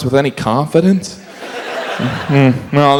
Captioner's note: audience laughs